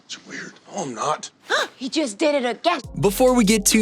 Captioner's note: gasp